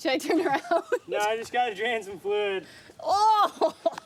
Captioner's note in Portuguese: riso; gargalhada da irmã